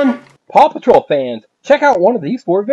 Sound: voiceover

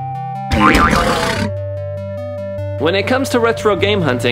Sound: upbeat electronic music; boing

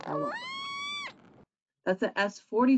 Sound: whale whines

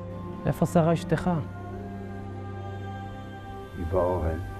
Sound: speaking in Hebrew

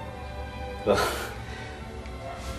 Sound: chuckles

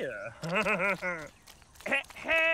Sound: chuckles

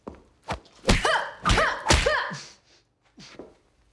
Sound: grunts

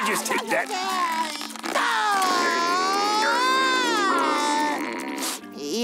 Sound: crying

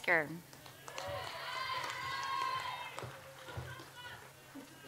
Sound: audience applauds

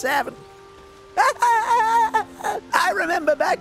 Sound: geriatric laughing

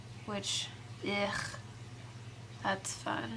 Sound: groans

